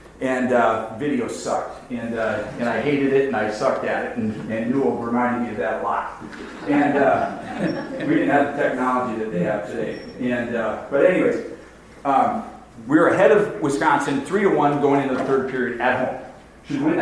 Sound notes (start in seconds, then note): 6.2 audience laughs